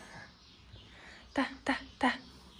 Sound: Arabic

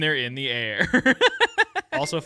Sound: laughing

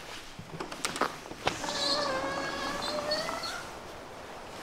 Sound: door sliding

